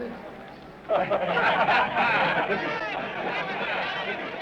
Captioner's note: laughter